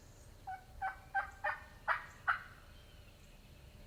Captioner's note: turkey call